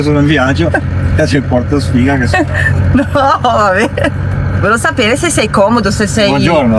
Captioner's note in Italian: risate